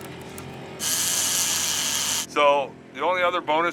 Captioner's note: reel spinning